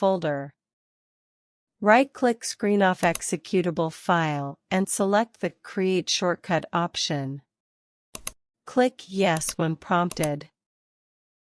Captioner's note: click